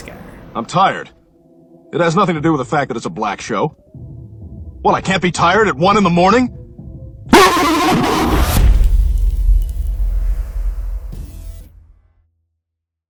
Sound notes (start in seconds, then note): 7.3 earrape screams; 7.3 impact